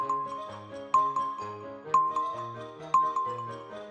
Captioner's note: timer beeping